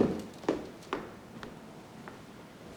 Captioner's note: footsteps